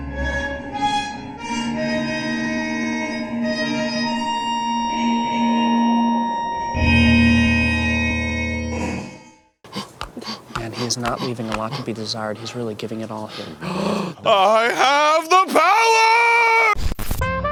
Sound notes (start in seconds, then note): 13.6 takes a deep breath